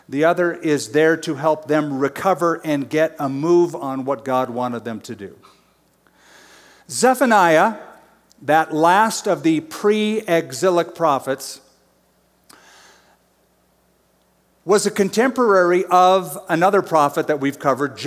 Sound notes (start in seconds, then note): none